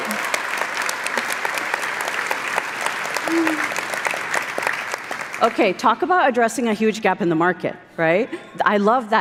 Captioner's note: applause